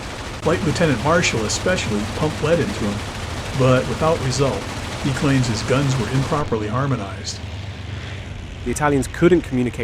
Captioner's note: guns improperly harmonized